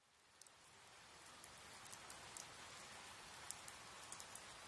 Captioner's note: rainfall continues